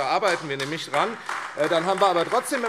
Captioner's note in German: Beifall AfD